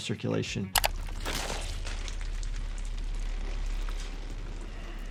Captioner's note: blood splattering